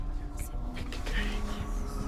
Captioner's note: whispering